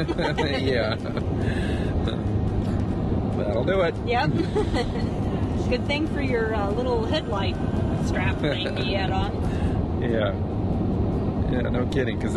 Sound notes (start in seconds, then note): 0.0 laughing; 5.0 laughing